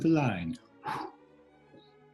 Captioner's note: blows